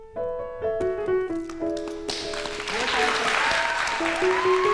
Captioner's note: applause